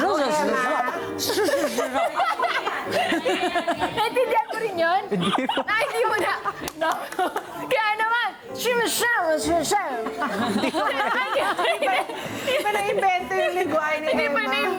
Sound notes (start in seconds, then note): 0.0 talks gibberish; 0.0 laughter; 7.5 talks gibberish